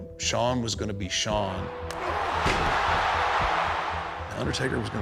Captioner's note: audience cheering